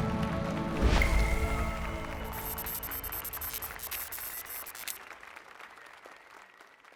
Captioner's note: applause and cheers